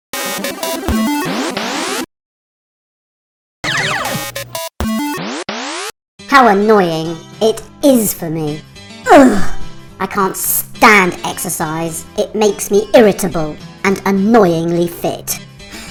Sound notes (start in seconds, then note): 2.1 silence